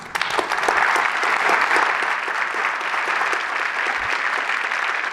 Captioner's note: applause